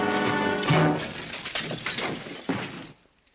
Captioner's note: crash - thud